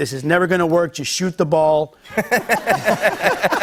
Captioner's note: laughter